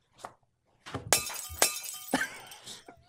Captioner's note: glass shattering